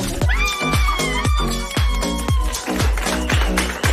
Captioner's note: excited screams